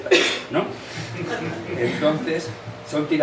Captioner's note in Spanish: risas